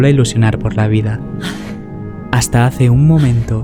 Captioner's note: gasps